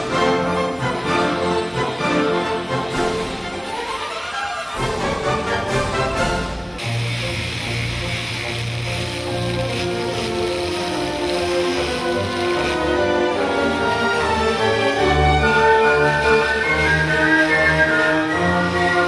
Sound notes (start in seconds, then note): 7.0 machinery humming; 7.0 upbeat orchestral music